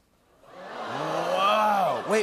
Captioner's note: audience groans